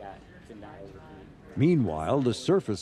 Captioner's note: murmurs